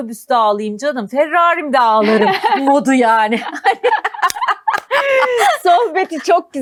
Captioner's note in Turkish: kahkaha